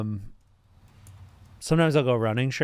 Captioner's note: none